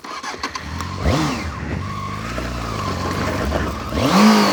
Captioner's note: engine noises